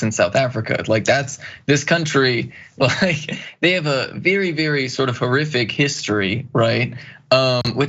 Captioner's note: laugh